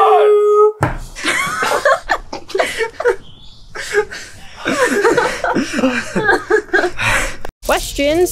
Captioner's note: hysterical laughter